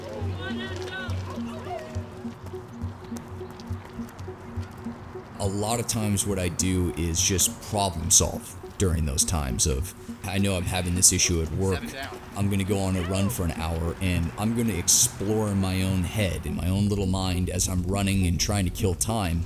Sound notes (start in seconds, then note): 1.5 crowd cheers